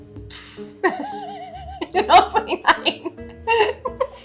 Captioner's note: laughing